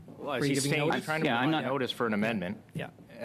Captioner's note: conversation din